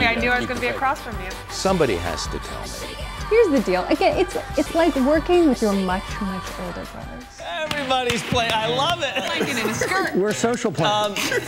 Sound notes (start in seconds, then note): 8.6 guys laughing; 9.0 laughs